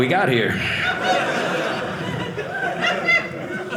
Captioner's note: audience laughing